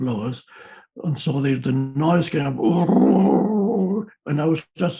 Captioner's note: roars